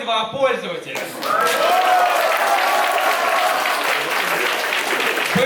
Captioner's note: applause